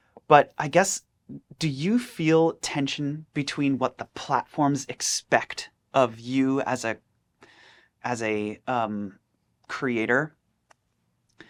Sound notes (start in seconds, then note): none